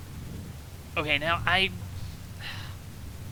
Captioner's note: sigh